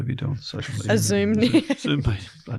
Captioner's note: laughs